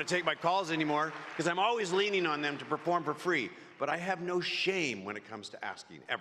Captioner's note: applause